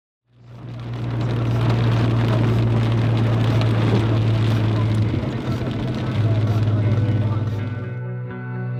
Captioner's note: raining